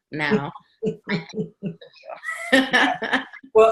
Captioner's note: laughing